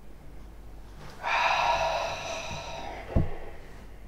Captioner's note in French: soupir de satisfaction